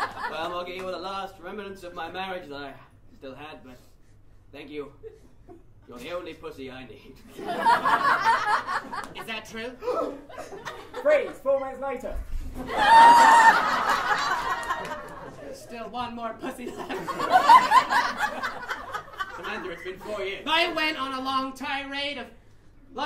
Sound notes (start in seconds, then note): 9.8 gasp!